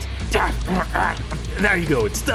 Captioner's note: various grunts